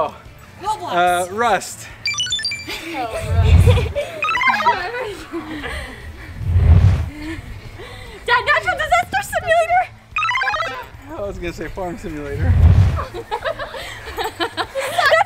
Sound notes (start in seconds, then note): 2.1 heavy breathing; 12.9 laughing